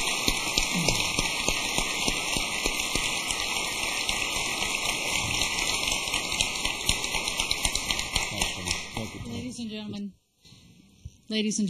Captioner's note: applause